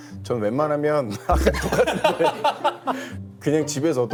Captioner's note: fails to hold back laughter